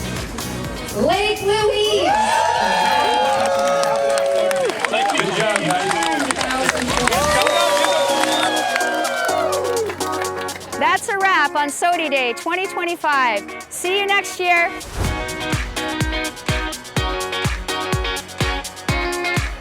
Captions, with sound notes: Lake Louise! (group cheering) - Thank you. Good job, guys. (group cheering) - That's a wrap on SOTI Day 2025. See you next year! (upbeat music continues)